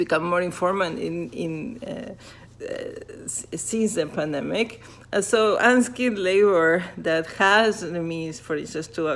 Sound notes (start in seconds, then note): 0.4 fabric rubbing